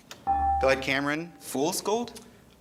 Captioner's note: ding